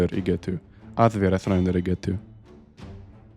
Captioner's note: Icelandic